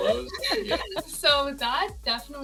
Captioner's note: group laughing